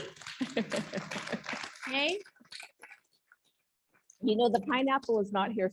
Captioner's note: audience applauds